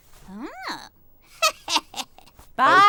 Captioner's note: witch cackles